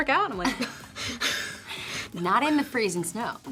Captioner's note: gasps for air